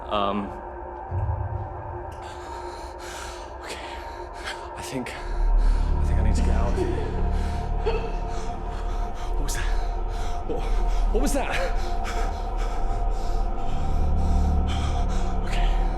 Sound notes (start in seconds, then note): 7.2 light dramatic music; 7.8 woman giggling; 12.4 heavy breathing; 13.9 suspenseful music